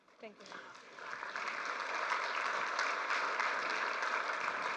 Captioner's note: applause